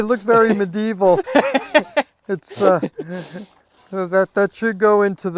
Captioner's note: both laughing